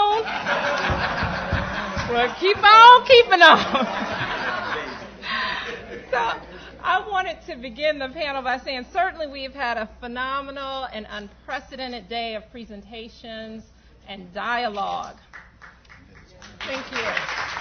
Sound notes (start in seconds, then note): 0.0 laughter; 15.2 applause